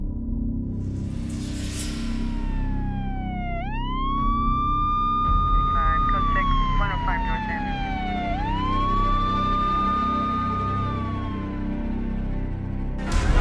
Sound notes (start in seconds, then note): 2.6 siren wailing; 8.8 wailing continues; 13.0 hospital sounds